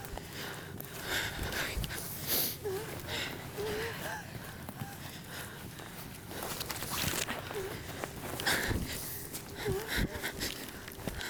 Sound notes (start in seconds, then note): 2.1 exhausted breathing